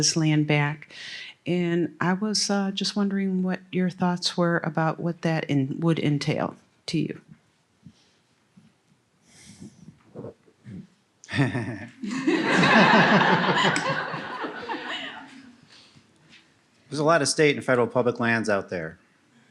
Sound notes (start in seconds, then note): 16.9 laughs